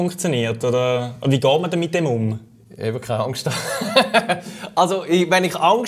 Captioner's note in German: Lachen